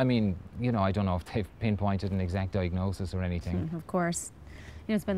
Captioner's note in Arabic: none